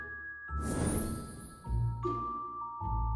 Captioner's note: whoosh